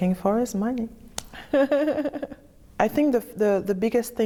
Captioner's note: laughter